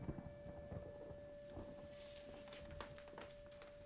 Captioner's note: thunder rumbles